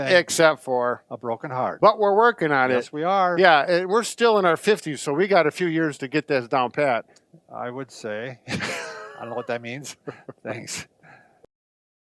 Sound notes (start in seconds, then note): 8.5 laughs